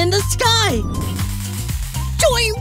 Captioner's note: running sounds